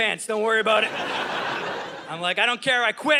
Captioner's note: audience laughing